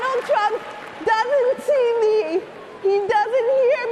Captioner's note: cheering and applause